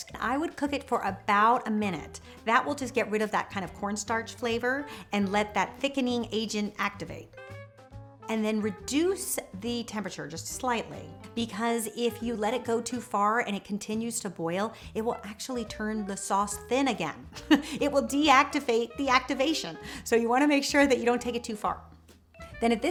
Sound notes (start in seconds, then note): 17.3 chuckles